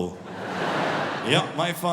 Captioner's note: audience laughing